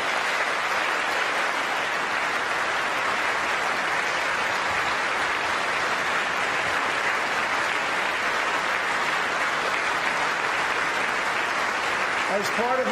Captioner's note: applause